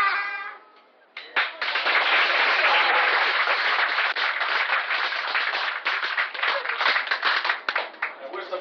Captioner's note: clapping